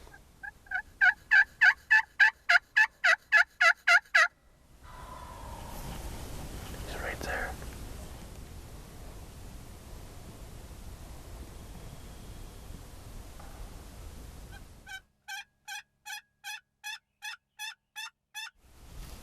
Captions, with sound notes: (turkey gobble call) (turkey gobbling) He's right there. (turkey gobble call)